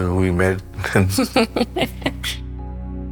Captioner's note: laughter